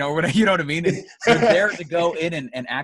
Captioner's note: laughs